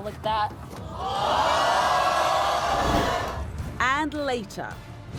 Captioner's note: audience gasps